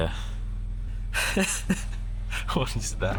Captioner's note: laughing